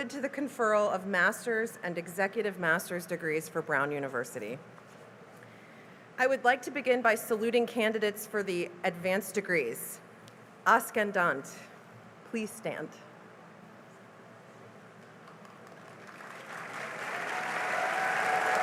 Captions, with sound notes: to the conferral of master's and executive master's degrees for Brown University. I would like to begin by saluting candidates for the advanced degrees. [NON-ENGLISH], please stand. [CHEERING AND APPLAUSE]